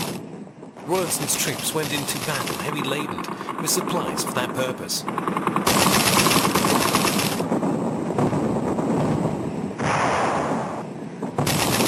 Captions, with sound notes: Rawlinson's troops went into battle heavy laden with supplies for that purpose. [explosions blast] [guns firing]